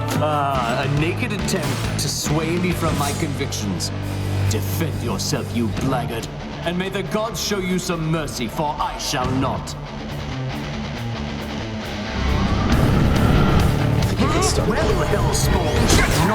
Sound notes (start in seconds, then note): 12.2 minotaur growls